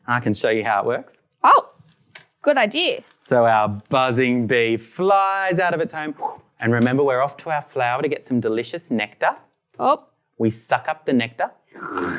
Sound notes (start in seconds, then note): 6.3 makes flying noise; 11.8 makes sucking noise